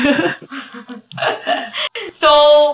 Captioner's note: laughs